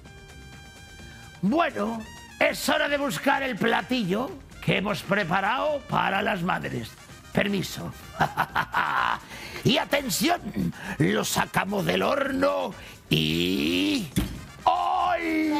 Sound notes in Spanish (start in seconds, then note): 8.0 Ríe